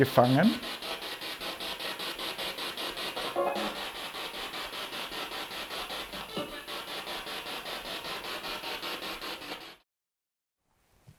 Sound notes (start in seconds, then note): 1.1 sound of the Spirit Box in the background